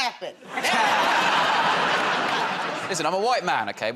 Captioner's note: laughter